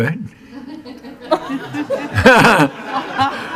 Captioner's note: laughing